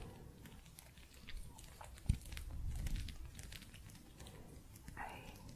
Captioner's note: gentle scratching